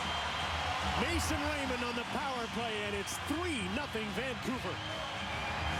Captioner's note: cheers and applause